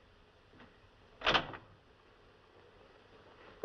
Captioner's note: door Closes